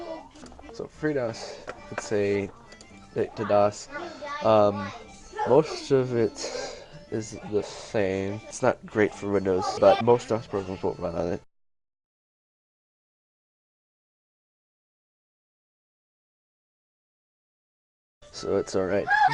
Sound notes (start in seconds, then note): 11.1 silence